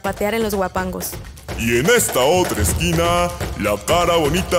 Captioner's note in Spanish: Habla con voz de presentador de luchas